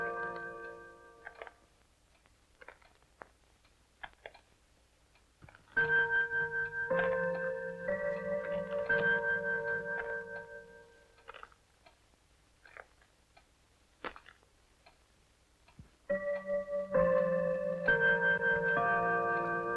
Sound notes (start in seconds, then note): 5.8 chiming continues; 11.2 footsteps approaching; 16.1 chiming continues